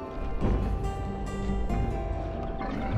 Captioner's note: footsteps thud